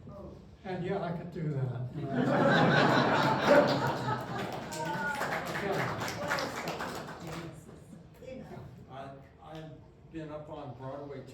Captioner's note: laughter